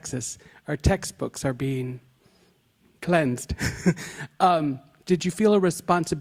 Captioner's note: chuckles nervously